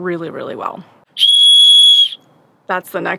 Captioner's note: blows whistle